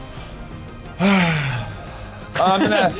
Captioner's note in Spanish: Suspiro